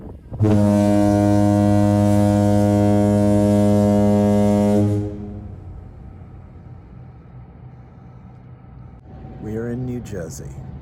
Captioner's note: fog Horn blares